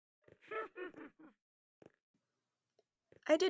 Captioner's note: witch cackles